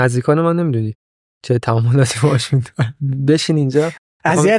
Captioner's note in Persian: خنده